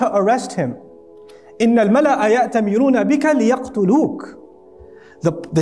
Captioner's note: Arabic